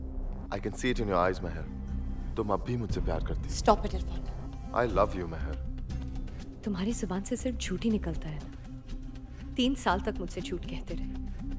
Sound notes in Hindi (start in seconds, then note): none